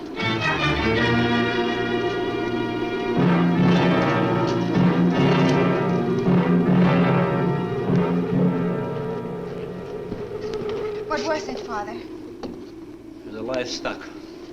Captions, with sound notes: (ominous orchestral music) (muffled wind howls) - What was it, Father? - It was the livestock.